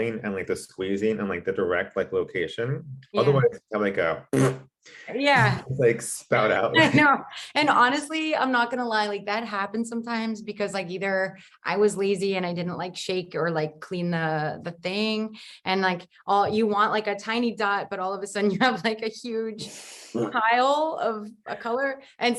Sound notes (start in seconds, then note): 4.2 blows a raspberry